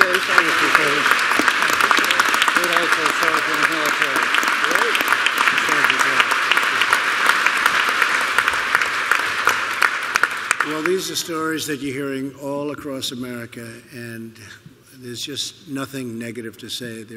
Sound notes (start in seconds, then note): 0.0 applause